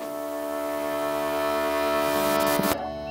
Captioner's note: tv static